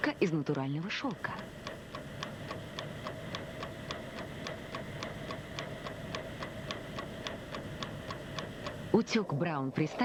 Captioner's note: clock ticking